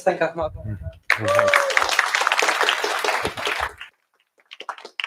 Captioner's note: applause